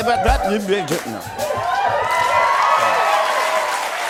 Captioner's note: cheers and applause